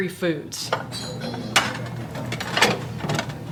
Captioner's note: phone Hangs Up